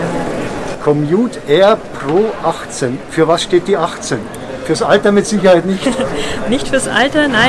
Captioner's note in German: Lachen